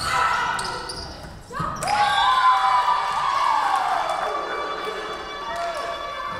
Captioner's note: whistle blowing; Tigers cheering